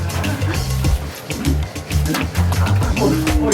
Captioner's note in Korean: 꺄르르르르르르~